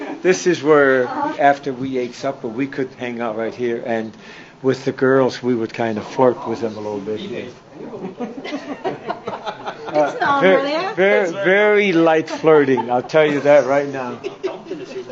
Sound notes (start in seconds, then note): 8.2 laughs